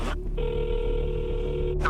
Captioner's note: phone ringing